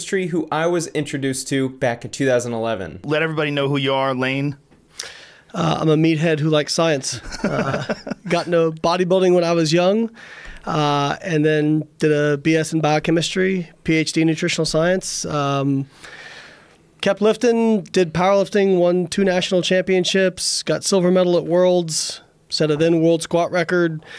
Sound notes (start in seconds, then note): 7.1 Joe laughs